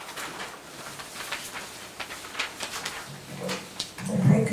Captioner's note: documents shuffling